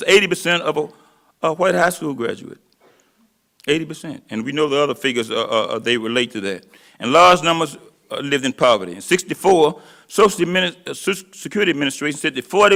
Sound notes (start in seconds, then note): none